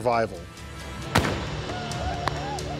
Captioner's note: gunshot